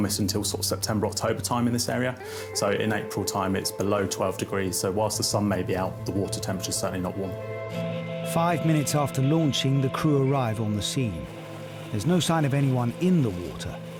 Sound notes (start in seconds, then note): 7.5 lifeboat engine whirring; 7.5 suspenseful music